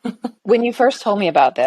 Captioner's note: chuckling